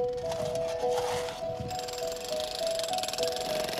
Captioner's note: machinery whirrs